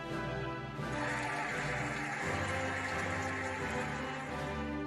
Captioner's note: cheering and applauding